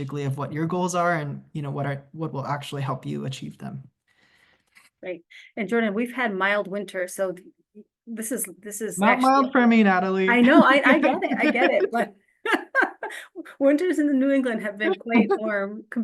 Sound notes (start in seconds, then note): 10.3 both laughs